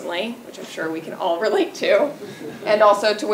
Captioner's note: laugh